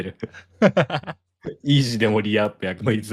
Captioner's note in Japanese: 笑い